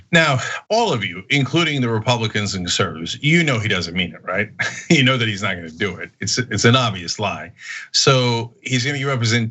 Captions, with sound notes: >> Now all of you, including the Republicans in the service, you know he doesn't mean that, right? [LAUGH] You know that he's not going to do it. It's an obvious lie. So, he's going to give up